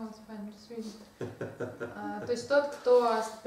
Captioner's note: hahaha